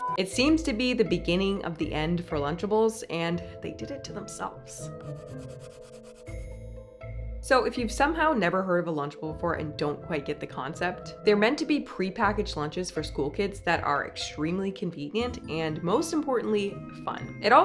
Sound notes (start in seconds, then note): 0.0 beep; 4.9 playful music; 5.0 pencil scratching